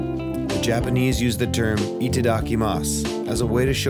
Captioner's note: speaking Japanese